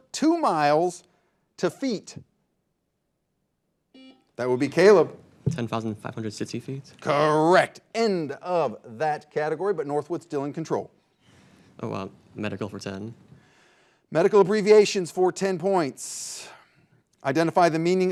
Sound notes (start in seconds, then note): 3.9 buzzer buzzing